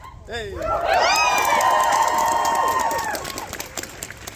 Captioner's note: crowd cheers